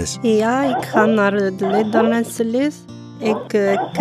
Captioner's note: with an accent